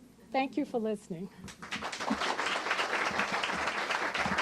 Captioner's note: applause